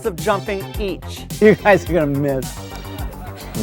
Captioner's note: laughs